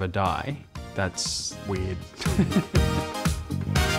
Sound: laughs

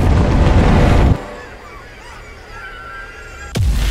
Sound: tiny screams

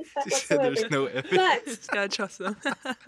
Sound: laughs

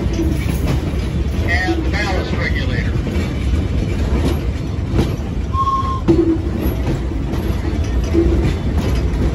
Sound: train whistle

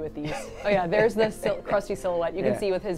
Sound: laughs

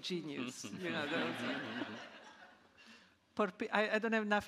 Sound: audience laughing

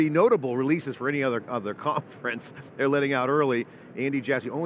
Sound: laughs

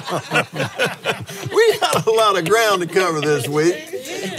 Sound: laughs

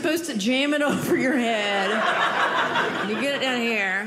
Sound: audience laughing

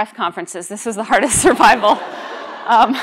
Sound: laughter

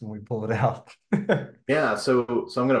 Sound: laughs

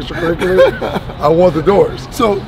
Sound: laughing

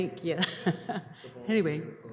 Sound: laughing

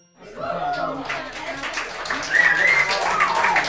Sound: clapping

